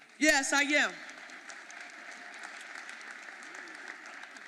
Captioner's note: audience applauding